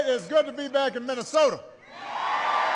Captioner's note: applause